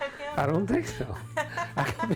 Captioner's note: laughter